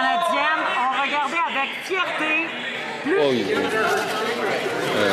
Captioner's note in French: voix de l'interprète